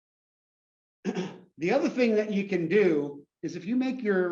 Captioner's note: cough